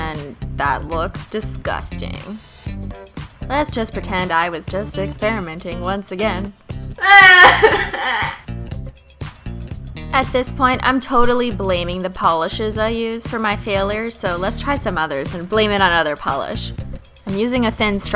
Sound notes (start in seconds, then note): 7.0 crying